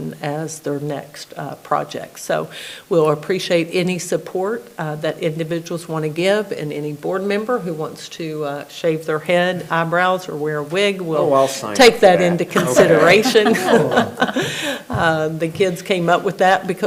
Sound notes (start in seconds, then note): 12.5 laughs; 14.2 everybody laughing